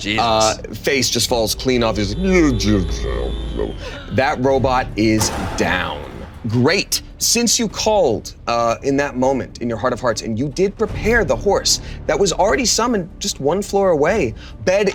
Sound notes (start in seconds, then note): 2.0 imitating robot slurring speech